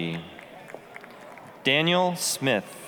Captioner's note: applause